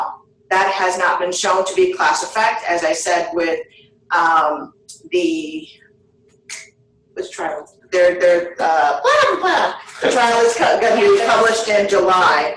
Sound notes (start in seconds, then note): 7.2 stuttering